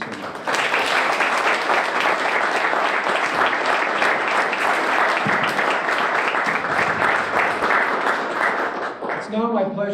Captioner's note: applause